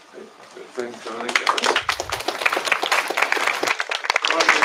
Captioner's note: applause